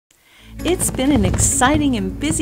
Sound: upbeat music; fireworks popping

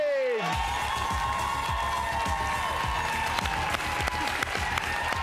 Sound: audience claps and cheers

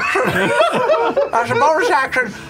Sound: laughter

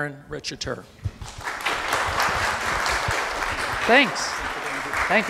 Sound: applause

